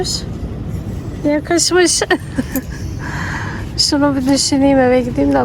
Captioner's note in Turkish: iç çeker